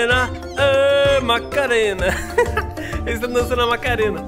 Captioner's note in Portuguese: risos